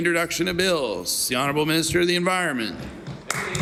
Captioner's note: applause